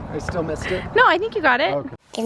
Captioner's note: chuckles; chuckling